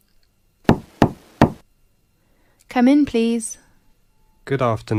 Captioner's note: knock at door